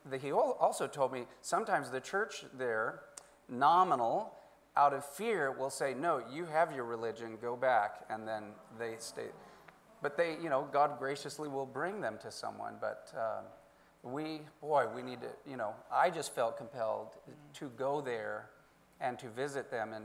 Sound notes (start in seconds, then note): none